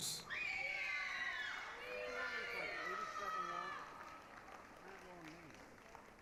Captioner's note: applause, cheering